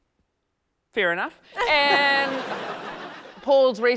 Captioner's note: laughter